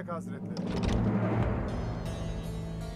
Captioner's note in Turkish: Kapı açılma sesi